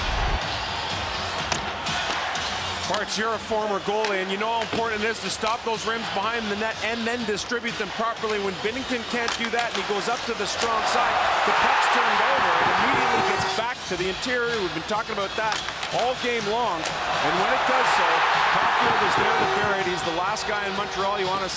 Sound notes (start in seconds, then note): 5.2 horn Sounding; 6.2 cheering and Applause